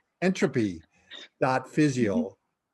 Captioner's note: both laughing